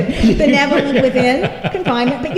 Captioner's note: laughter